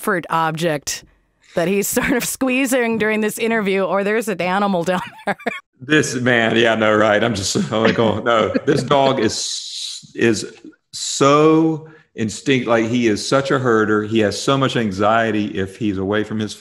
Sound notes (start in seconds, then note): 4.9 laughter; 7.2 laughter